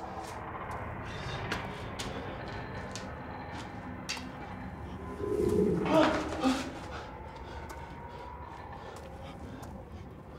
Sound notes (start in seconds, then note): 4.7 dramatic groaning; 5.1 shouting